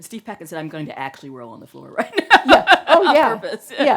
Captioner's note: laughs